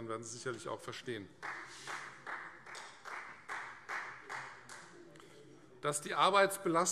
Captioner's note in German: Heiterkeit und Beifall Freie Demokraten